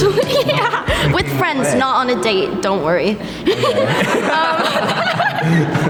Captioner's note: laughs; laughs